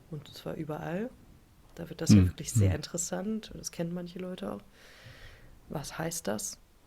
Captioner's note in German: räuspern